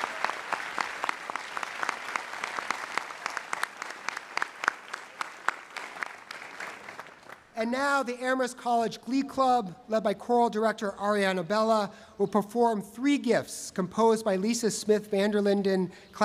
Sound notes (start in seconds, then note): 0.0 applause